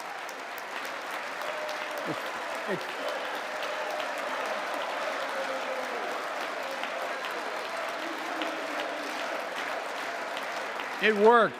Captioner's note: applause